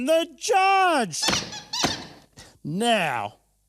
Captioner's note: chicken squeaking